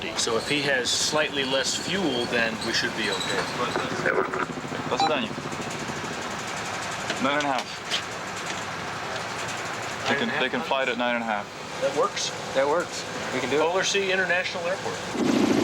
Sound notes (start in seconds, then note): 4.1 Yamal crew member transmitting Russian over radio; 4.9 radio beeping; 5.3 speaking Russian